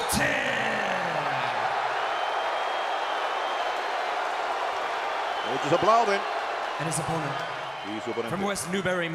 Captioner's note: applause